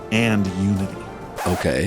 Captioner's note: record scratch, music stops